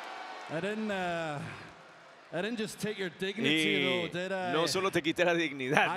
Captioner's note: applause